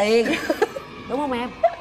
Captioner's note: laughs